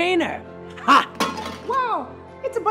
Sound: can clatters

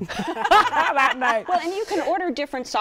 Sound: laughter

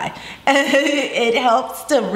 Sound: laughs

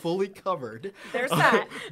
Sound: laughter

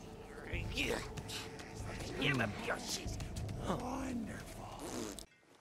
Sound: angry muttering

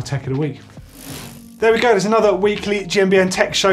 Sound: bike wheel spinning

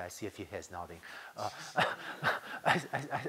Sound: laughter

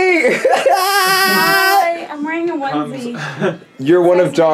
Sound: laughs

